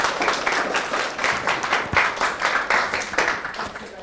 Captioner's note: clapping